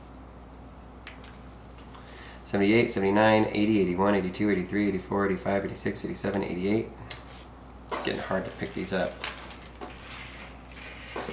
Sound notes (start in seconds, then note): none